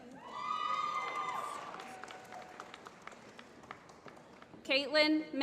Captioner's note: applause